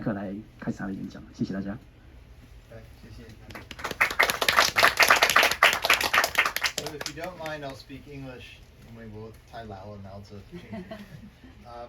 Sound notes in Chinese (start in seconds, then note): 3.5 掌聲